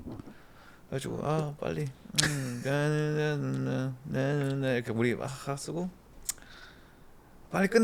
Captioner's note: hums